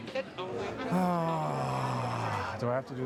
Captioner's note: sighing heavily